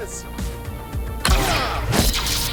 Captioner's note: gunshot